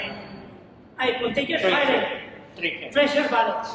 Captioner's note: chatter